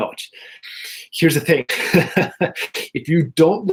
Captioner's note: laughs